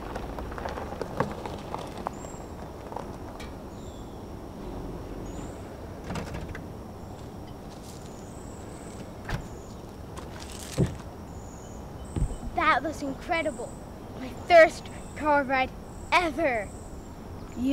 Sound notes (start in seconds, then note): 7.8 birds continue chirping; 8.9 door shuts